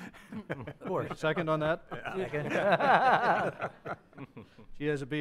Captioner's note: members laugh